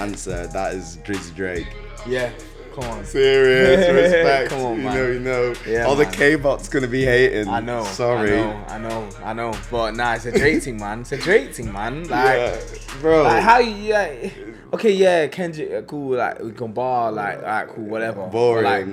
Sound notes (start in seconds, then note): 3.2 laughs